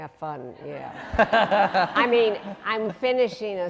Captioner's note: laughing